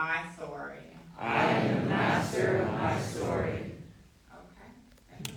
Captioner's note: crowd